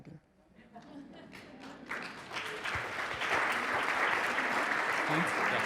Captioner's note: audience applauding